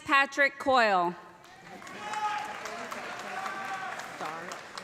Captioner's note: cheers and applause